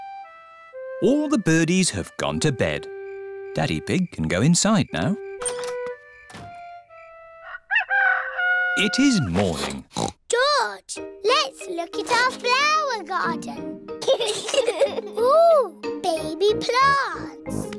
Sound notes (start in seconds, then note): 7.3 rooster crowing; 9.1 oinks; 14.0 both giggling